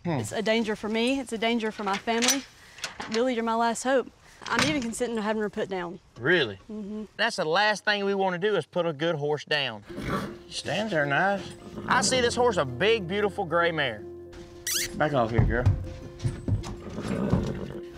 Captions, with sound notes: IT'S A DANGER FOR ME AND IT'S A DANGER FOR MY FAMILY. I BELIEVE YOU'RE MY LAST HOPE. I'M EVEN CONSIDERING HAVING HER PUT DOWN. REALLY? MM-HMM. THAT'S THE LAST THING WE WANT TO DO IS PUT A GOOD HORSE DOWN. SHE STANDS THERE NICE. [HORSE NEIGHING] I SEE THIS HORSE IS A BIG, BEAUTIFUL GRAY MARE. [KISSING SOUND] BACK OFF HERE, GIRL. [HORSE GRUNTS]